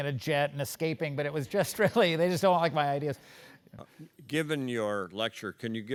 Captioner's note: laugh